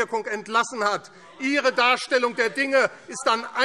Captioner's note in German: Lebhafte Zurufe BÜNDNIS 90/DIE GRÜNEN